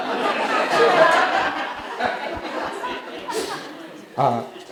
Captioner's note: audience laughing